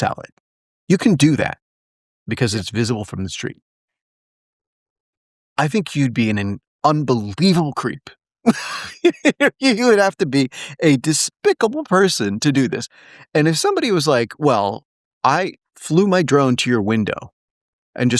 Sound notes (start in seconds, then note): 8.4 laugh